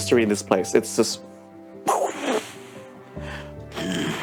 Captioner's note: imitates explosion